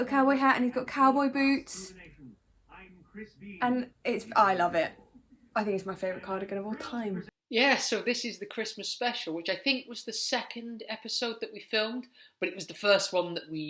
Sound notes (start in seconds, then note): none